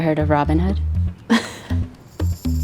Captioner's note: laughs